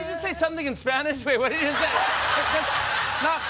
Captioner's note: laughter